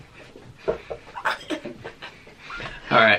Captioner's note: chuckling